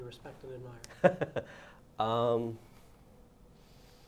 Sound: laughs

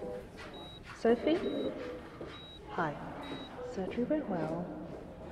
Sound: muffled voice

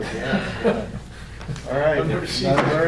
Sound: laughing

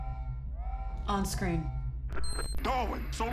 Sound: computer beeps

